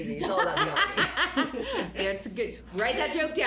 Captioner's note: laughs